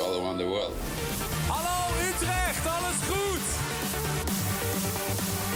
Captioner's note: speaking in foreign language; energetic trance music